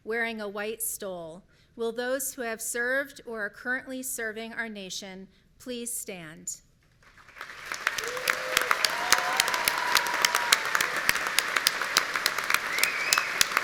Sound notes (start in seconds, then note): 7.4 audience cheering